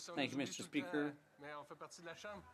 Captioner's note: speaking French